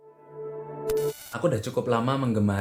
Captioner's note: interference sound